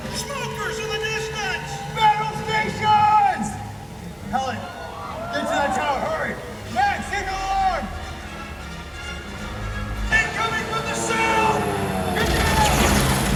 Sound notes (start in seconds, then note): 7.9 tense music begins; 11.5 plane engine roaring